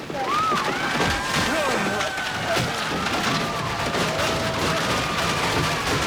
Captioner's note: crowd yelling; debris thumping